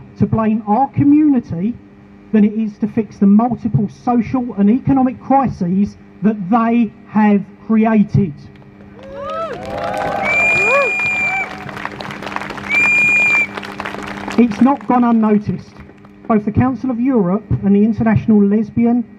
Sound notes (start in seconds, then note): 8.9 crowd Cheers